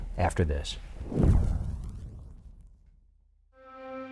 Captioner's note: air whooshes